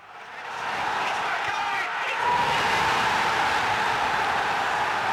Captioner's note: crowd cheering wildly